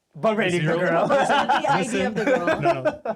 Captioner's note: laughing